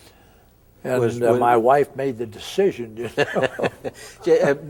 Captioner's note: both chuckle